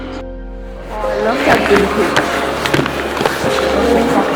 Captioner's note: muffled chatter